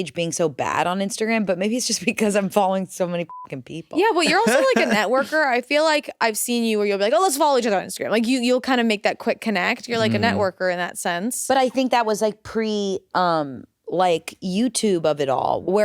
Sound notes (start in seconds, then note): 3.2 beep